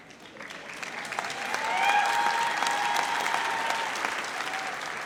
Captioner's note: audience applauds